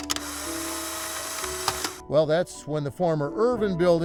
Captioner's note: camera snapping